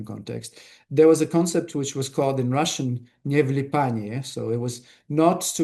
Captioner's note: russian